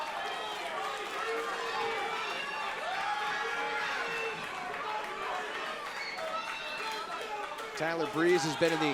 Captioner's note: crowd cheering